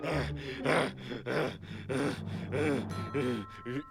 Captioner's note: angry panting